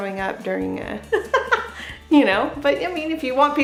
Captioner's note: laughs